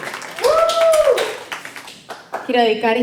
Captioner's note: cheering; clapping